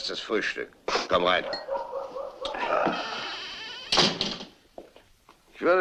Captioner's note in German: Tür schließt sich